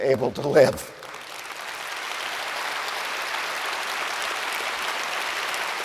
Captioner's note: audience applauds